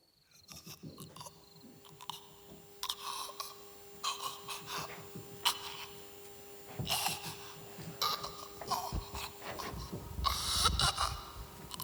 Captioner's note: faint choking sounds